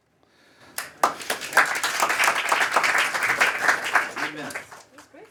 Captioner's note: applause